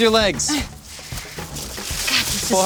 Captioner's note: leaves rustling